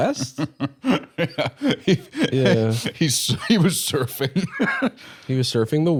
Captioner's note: laughing